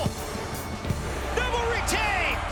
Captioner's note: crowd cheering